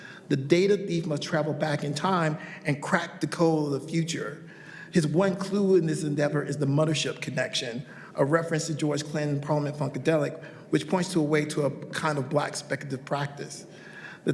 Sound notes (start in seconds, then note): none